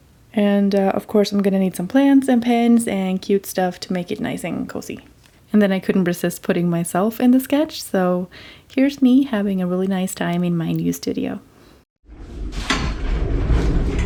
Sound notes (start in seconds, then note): none